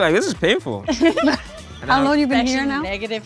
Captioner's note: all laugh